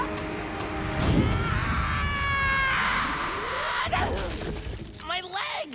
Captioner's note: screaming